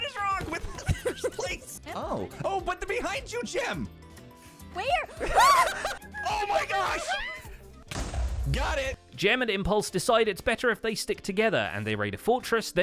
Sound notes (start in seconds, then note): 0.5 others giggling; 6.8 shrieks; 7.9 explosion